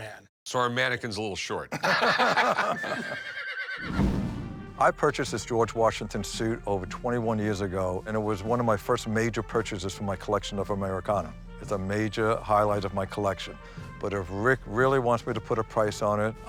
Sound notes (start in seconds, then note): 1.7 laughter; 2.6 horse neighs